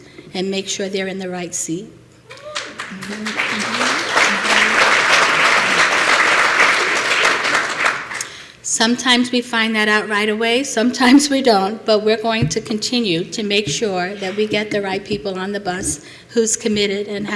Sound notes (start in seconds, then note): 2.3 applause